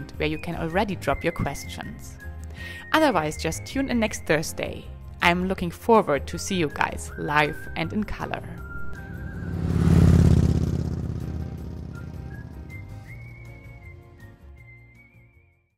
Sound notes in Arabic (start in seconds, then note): 8.6 صوت المحرك; 12.8 موسيقى هادئة متفائلة